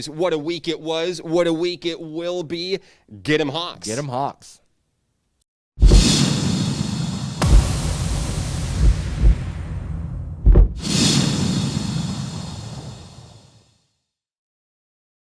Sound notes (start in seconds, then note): 7.4 booming sound